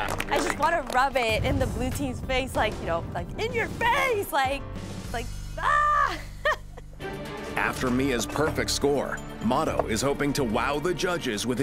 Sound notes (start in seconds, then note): 5.8 laughs